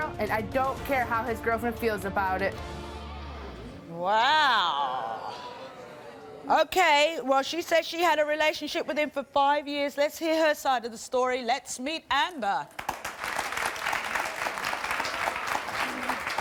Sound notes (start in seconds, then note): 5.3 audience grumbles; 12.7 light applause